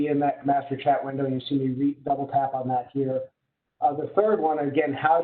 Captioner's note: murmurs